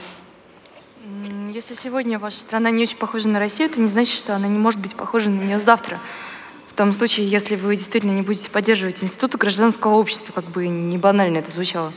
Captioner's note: foreign Language